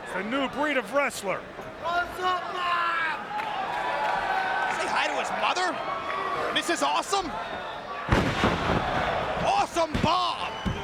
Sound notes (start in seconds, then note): 8.1 bodies slamming